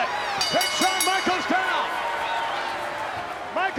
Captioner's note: bell dinging